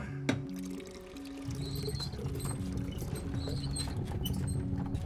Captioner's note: cart squeaking